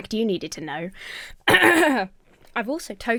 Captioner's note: Emma clears throat